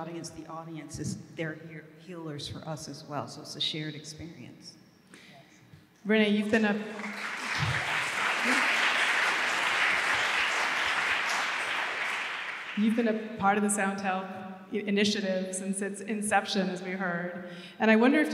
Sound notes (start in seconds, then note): 6.4 applause